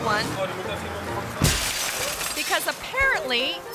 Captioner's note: car door thuds; glass shattering